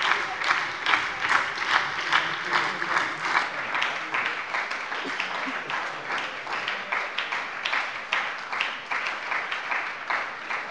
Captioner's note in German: Anhaltender Beifall bei der SPD und Beifall der LINKEN